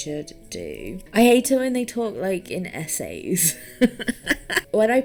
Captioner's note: laughs